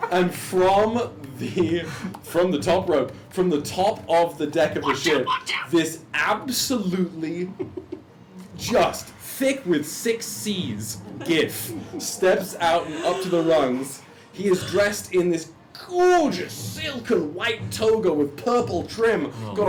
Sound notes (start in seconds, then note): 0.5 laughs; 12.6 gasps